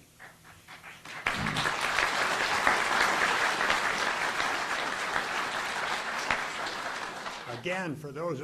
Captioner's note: audience applauding